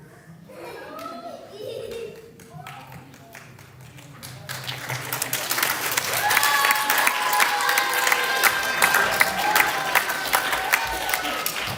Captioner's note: laughter, applause